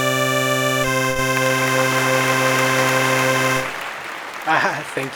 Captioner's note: large crowd applauding